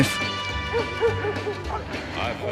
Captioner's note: dogs barking